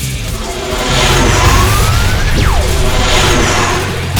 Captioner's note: sword whirring